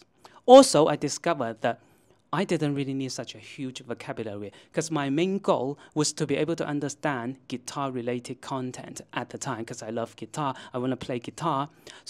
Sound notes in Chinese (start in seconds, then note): 8.5 英语